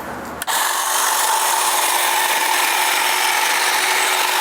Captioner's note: hedge trimmer whirring